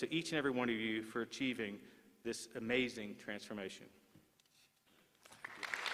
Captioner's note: applause